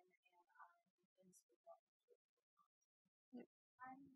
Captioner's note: speaking off mic